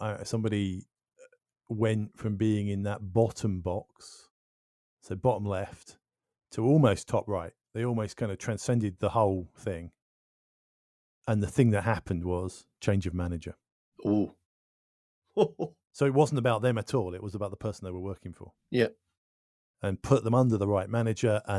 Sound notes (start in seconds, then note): 15.4 laughs